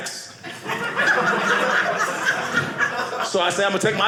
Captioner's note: audience laughing